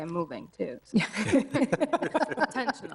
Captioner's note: group laughing